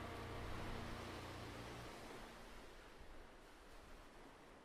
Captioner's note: waves lapping